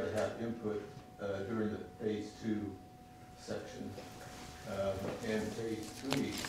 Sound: page rustling

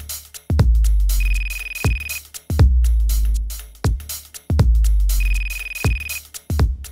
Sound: ringing

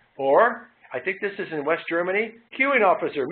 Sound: none

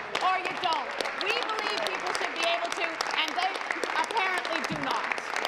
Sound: applause

